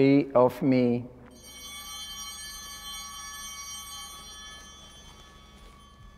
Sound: altar bell ringing

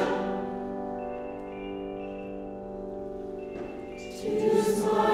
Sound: cell phone ringing

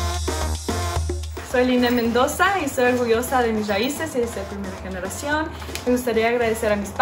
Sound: speaks in foreign language

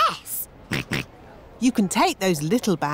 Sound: snorts

